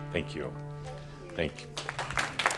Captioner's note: audience applause